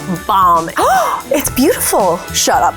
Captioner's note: gasps